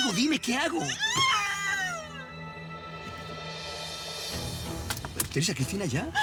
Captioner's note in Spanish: Grito